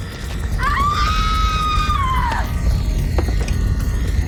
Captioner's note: screams